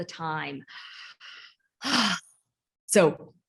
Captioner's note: sighs